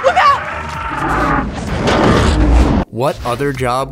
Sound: monster screaming

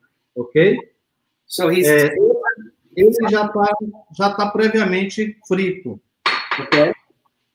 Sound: speaks portuguese

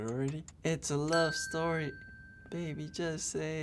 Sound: bell rings

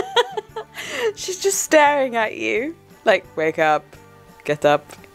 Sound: laughing

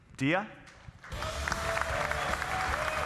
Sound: audience cheering and applauding; lively music

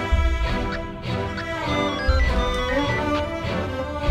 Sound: radio disabling

